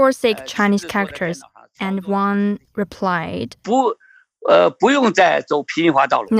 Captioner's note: speaking Mandarin